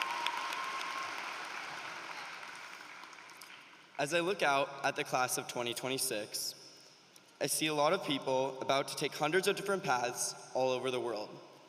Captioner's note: applause